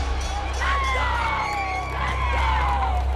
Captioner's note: bell dings; cheers and applause